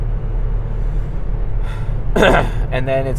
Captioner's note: clears throat